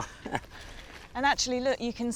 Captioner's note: George chuckles